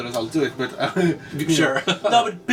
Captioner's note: laughs